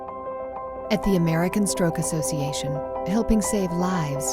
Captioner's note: uplifting piano music; voiceover